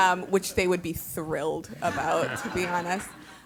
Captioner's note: laugh